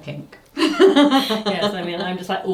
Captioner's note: laughs